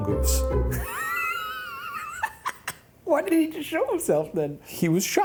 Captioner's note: laughs